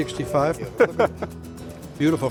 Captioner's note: laughs